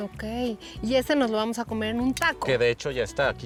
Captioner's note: speaking Spanish